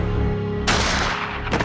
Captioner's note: gunshot